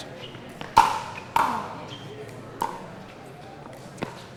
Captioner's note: ball clacking